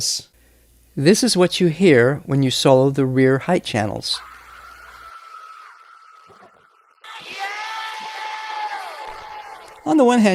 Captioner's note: distorted screaming